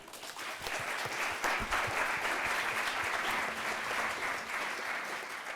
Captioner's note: audience applause